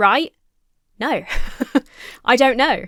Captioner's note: laughs